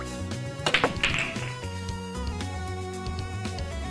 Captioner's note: clack Roll , roll